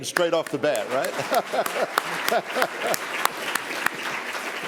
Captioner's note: applause; laugher